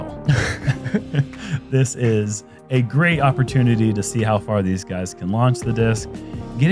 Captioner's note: laughs